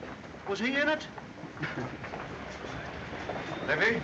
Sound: chuckles

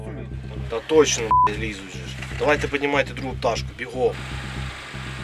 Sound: drone

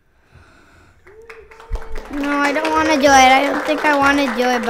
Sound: people clap

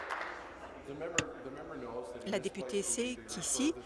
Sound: applause

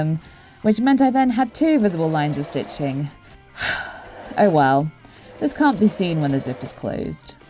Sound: sigh

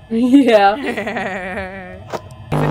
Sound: goofy laugh

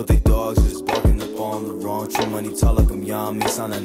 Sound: none

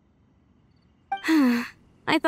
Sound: sigh

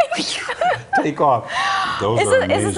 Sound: laughter

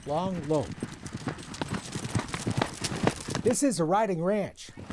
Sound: horse galloping

